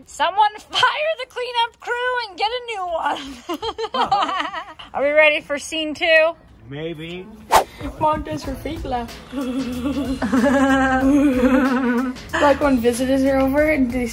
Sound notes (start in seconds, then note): 3.2 laughing; 9.3 laughing; 9.4 mom laughing